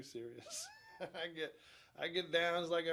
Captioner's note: chuckles